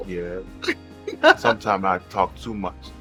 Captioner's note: giggles